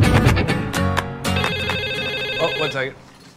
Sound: phone rings

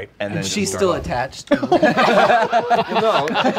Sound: laughing

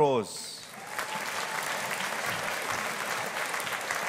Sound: audience applauding

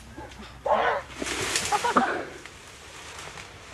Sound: muffled painful scream

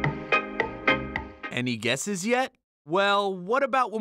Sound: voice-over

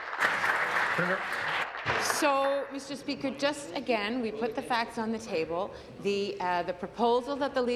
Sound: applause

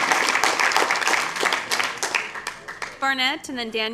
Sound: applause

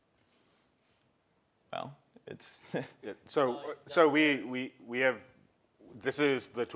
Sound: laugh

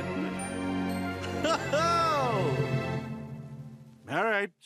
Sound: laugh

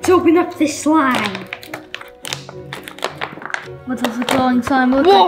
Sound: wrapper crinkling

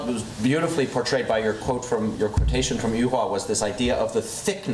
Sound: foreign language

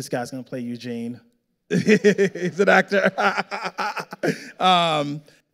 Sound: laughing

